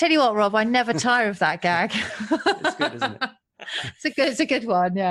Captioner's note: laughs